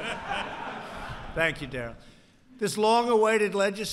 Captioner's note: laughter